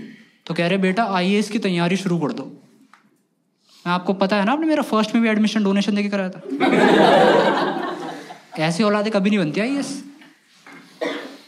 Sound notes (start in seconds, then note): 6.5 laughs